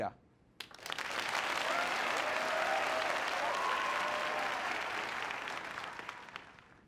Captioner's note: applause